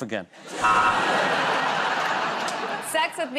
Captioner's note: laughter